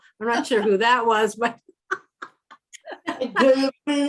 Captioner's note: laughter